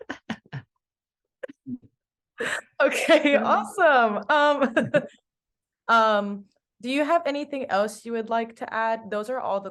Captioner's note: laughs